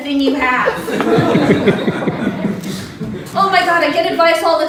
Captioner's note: chuckling